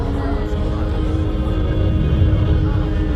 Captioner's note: rumble intensifies